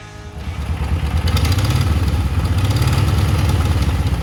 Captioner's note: engine noises